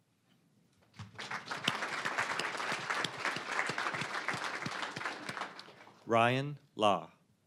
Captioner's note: applause